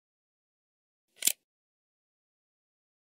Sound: sound of camera shutter

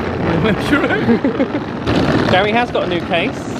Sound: case wheels rattling

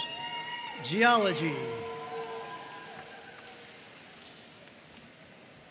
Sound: audience cheering and applauding

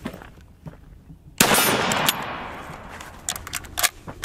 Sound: gun shot; ammo reloading

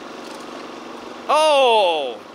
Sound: machinery clanks

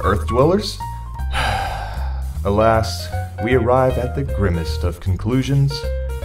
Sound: sigh

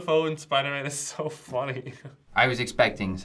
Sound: laughs

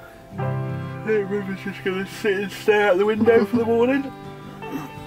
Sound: yawning

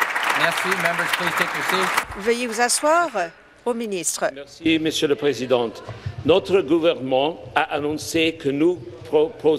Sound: applause

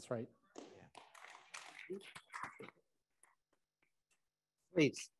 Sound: attendees applauding

